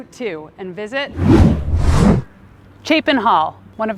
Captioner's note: wind whooshing